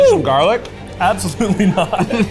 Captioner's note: laughs